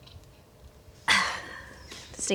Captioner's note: sigh